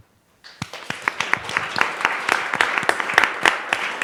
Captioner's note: applause